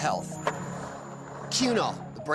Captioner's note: skateboard wheels roaring